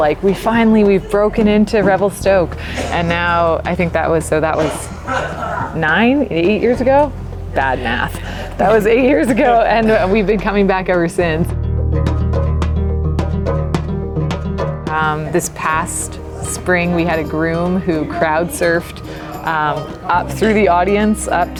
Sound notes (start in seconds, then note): 7.5 laughs; 12.3 upbeat music